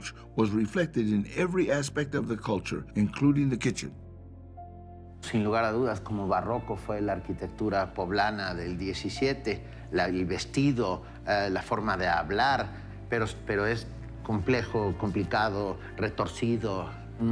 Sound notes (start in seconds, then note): 5.5 in Spanish